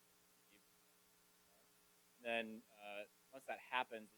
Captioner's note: away from the mic